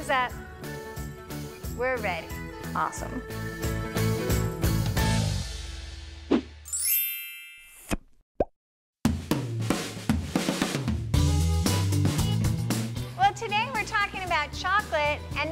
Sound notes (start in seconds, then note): 6.7 chiming bells; 11.2 upbeat techno music